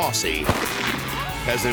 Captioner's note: explosion bangs; people cheer